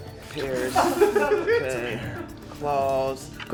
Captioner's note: producers laughing